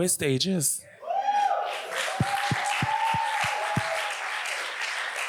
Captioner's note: audience applauds